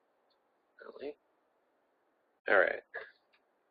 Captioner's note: mumbles